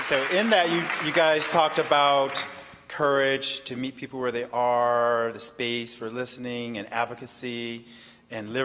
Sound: applause

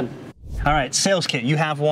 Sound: air swooshing

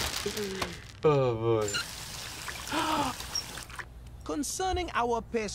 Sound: gasps

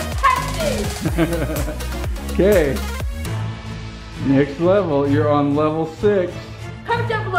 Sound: laughing

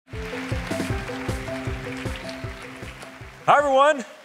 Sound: applause

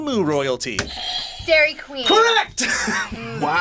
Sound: buzzer rings; laughs

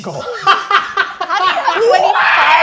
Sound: laughing

